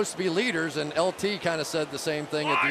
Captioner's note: cheering